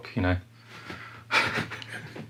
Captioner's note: laughing